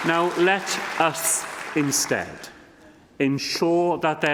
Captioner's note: applause